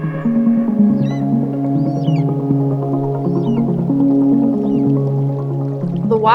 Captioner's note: eagle calls